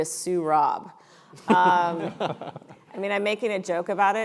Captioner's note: panel members laughing